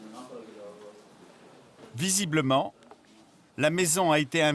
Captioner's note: Hebrew spoken audio